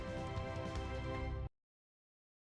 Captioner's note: music stops